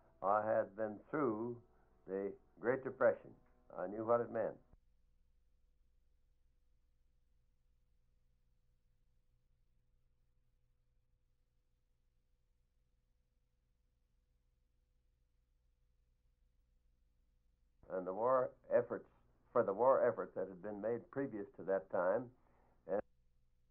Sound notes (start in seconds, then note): 5.4 silent; 22.3 silent